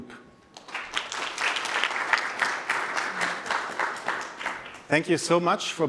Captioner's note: applause